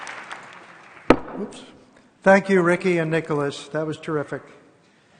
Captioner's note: applause